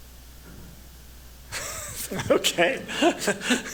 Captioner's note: chuckles